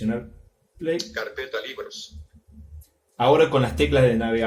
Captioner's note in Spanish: voz del dispositivo